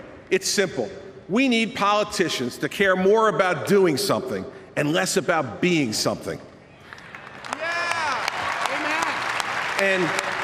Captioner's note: applause